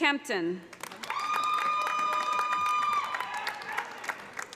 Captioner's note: cheers and applause